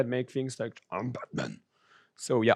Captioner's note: distorted voice